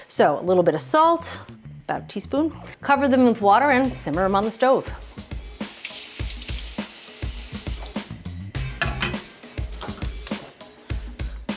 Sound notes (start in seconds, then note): 5.2 light music; 6.0 water sloshing; 8.8 pan clanging